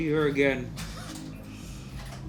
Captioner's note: laughs